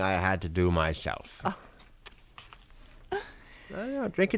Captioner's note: chuckles